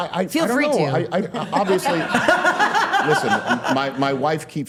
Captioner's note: all laughing